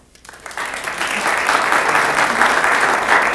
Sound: applause

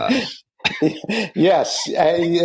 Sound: laughing

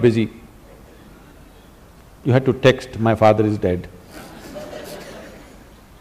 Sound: laughter; 笑聲

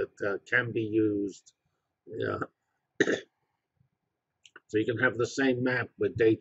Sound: cough

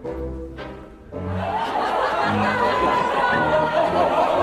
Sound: laughter continues

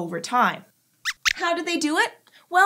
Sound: squeaks squeaks

